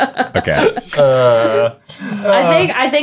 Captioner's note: groaning